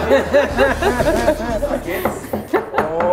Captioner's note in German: Gelächter